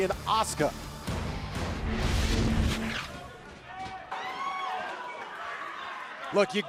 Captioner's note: crowd cheering